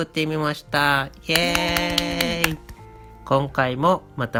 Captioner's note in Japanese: 拍手